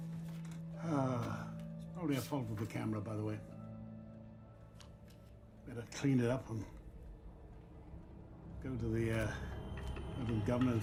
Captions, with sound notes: [sighs] It's probably a fault with the camera by the way. Better clean it up and go to the governor